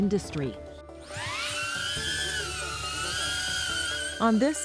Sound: drone buzzing

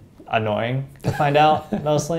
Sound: laugh

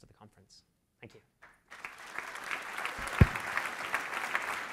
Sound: applause

